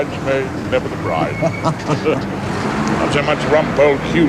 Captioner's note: both chuckle